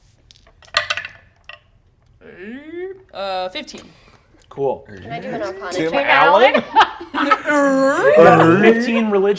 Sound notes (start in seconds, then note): 0.6 die rolls; 2.6 grunts; 6.4 laughter; 7.4 grunts